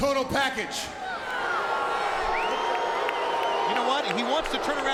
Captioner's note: crowd booing